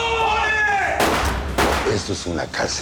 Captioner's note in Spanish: Disparos